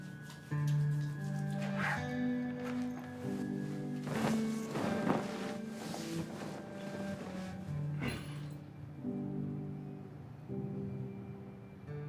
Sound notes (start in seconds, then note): 0.3 hands rubbing; 1.6 zipper clattering; 3.8 sheet popping; 7.8 somber guitar music